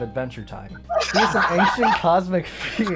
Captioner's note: laughter